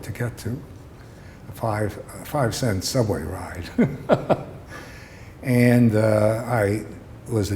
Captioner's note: laughter